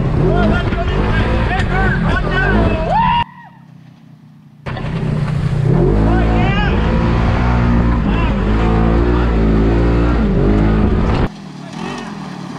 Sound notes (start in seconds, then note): 2.6 screaming; 9.7 engine revving